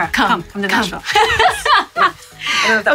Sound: laughing

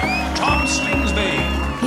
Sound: cheering

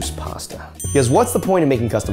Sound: bell dings

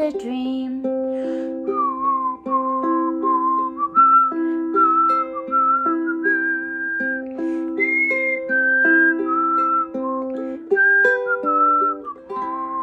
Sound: whistling

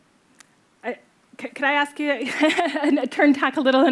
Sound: chuckles

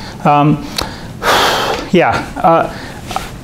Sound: sighing

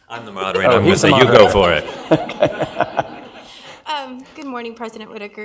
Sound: audience laughs

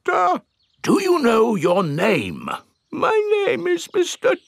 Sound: in teddy's voice; in normal voice; in teddy's voice

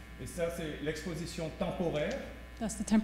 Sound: speaking french

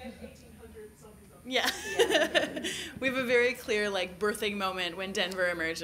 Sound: laughter

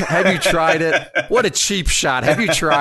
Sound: laughs

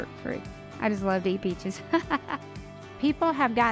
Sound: laughs

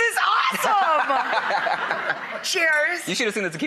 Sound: laughs

